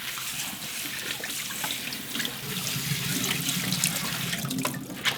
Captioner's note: water running